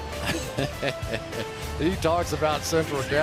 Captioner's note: laughs